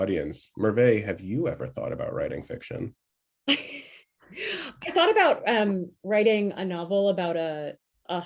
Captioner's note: laughter